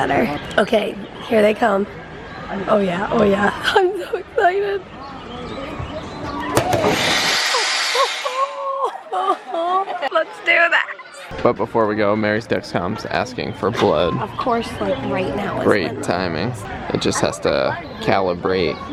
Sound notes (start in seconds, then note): 6.7 screeching; 7.9 laughing